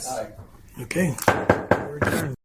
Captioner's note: gavel rapping